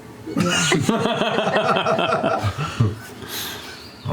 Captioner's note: laughter